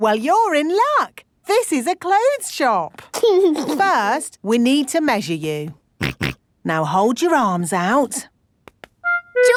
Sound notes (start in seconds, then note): 6.5 snorts